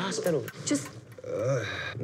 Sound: groaning

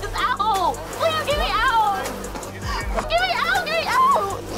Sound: sobbing

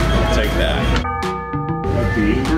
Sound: ding

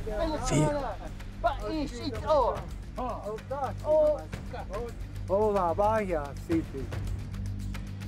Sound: speaking shoshone

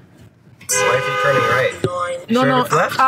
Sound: horn hoking

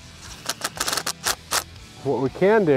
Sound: mechanical whirring

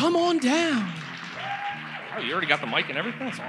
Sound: audience cheers

